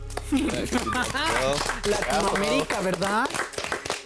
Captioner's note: everyone claps